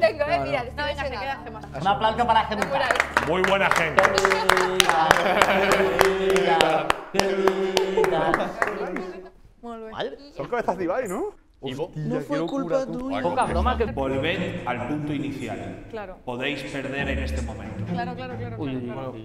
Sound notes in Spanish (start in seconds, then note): 2.5 aplauden